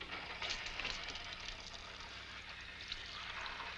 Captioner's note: water splashing